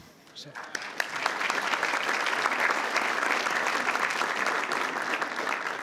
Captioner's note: attendees applauding